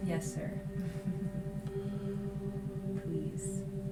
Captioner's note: laughter